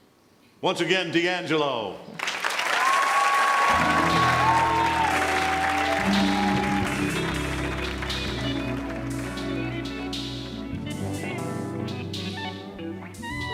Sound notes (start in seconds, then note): 2.2 audience cheering and clapping; 6.2 groovy music